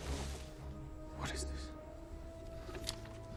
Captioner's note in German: Flüstern